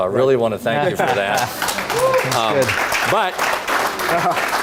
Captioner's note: audience applauding